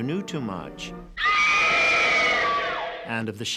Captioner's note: screams